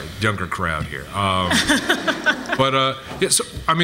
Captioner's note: laughs